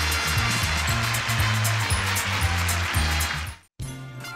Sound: crowd clapping

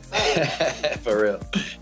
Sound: man laughs

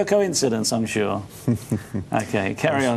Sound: chuckling

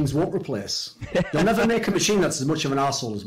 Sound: laughs

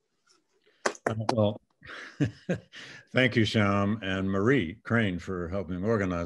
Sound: claps; laughs

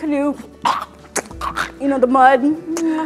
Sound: makes sound of walking in mud

